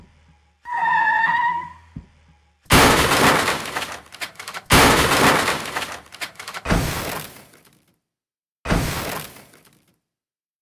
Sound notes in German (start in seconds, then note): 0.0 Reifenquietschgeräusch; 2.7 Aufprallgeräusch